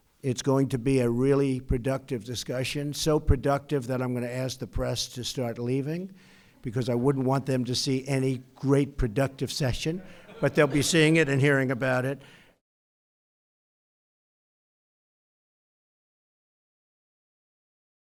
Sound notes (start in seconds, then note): 9.9 laughter